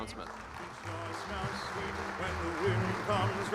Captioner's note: applause